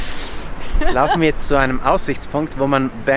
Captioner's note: laughter